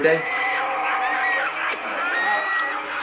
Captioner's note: savage roars